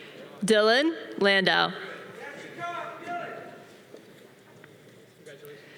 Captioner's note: audience cheering